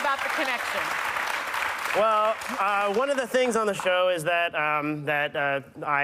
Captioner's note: cheers and applause